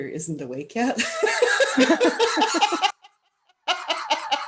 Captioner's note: laughter